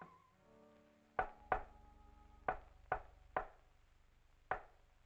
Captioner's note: intercom tapping